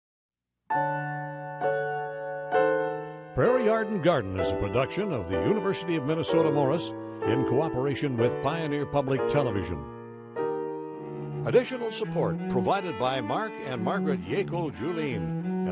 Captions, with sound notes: (slow rhythmic music) - [Voiceover] Prairie Yard & Garden is a production of the University of Minnesota Morris in cooperation with Pioneer Public Television. Additional support provided by Mark and Margaret Yackel-Juleen,